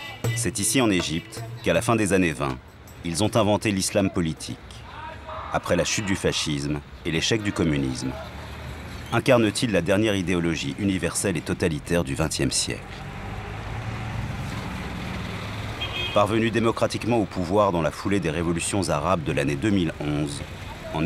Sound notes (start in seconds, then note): 15.6 horn honking